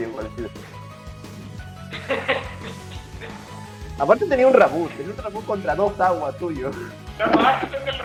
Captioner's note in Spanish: Risas